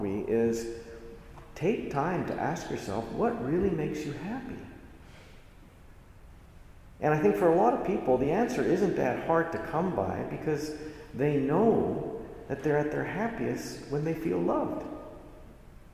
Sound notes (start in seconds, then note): none